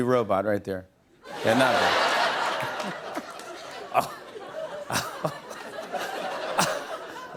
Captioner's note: laughter